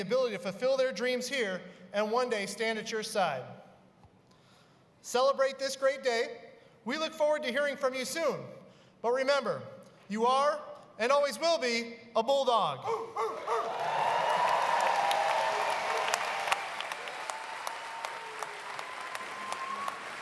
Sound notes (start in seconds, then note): 12.8 barking; 13.5 applause